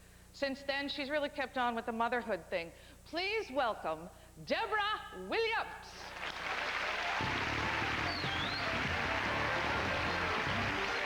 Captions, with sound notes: SINCE THEN, SHE'S REALLY KEPT ON WITH THE MOTHERHOOD THING. PLEASE WELCOME DEBORAH WILLIAMS! [applause, upbeat background music]